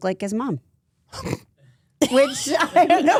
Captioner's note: AJ chortles